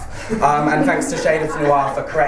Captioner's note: laughter